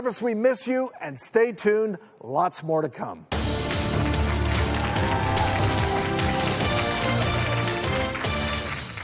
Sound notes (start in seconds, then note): 3.3 crowd applausing; 4.8 upbeat music